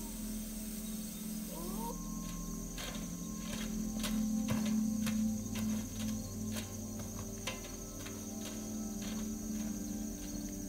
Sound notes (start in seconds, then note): 0.0 distant howling; 2.7 clanking of armor